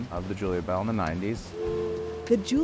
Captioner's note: steam whistle warbles